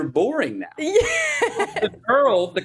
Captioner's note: laughs